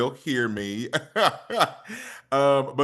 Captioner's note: laughs